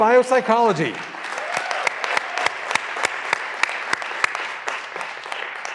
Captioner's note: graduands cheering and applauding